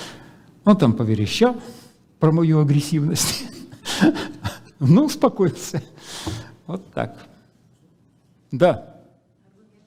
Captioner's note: laughs